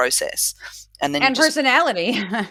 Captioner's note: laugh